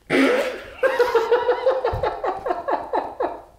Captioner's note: laughter behind the camera